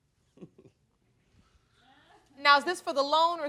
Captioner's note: chuckling